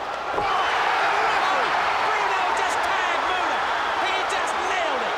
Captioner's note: crowd cheers